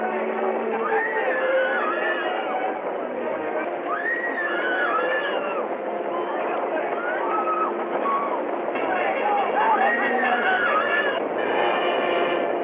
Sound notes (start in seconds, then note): 0.8 women screaming; 8.0 perilous music